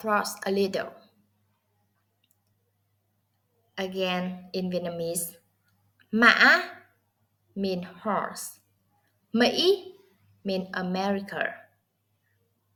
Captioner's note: Vietnamese